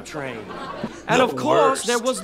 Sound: laughs

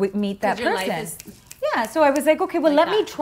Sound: snaps fingers

